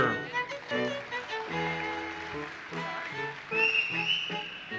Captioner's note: audience applauses